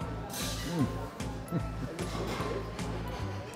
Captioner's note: chuckles